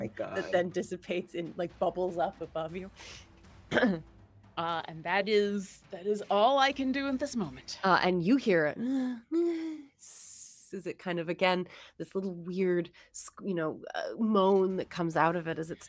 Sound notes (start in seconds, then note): 3.7 clears throat; 8.9 moans